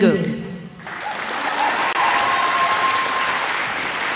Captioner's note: applause